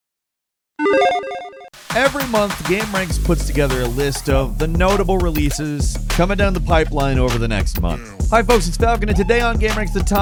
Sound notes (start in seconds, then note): 0.8 electronic chiming